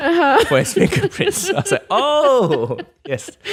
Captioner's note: laughs